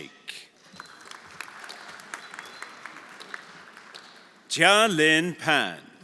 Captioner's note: everyone applauding